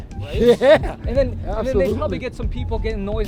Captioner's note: laughing